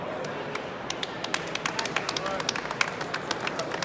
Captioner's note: applause